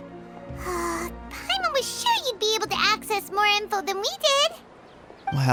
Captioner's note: sigh